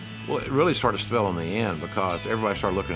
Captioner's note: none